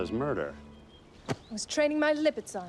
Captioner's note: hit